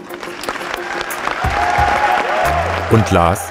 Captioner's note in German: Applaus